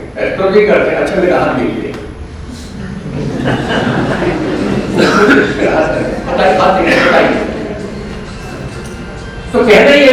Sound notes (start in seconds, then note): 1.4 laughter